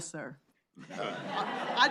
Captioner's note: laughter